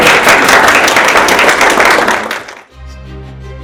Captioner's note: applause